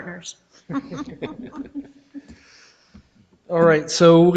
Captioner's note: all laughing